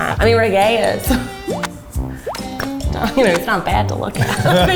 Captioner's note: chuckles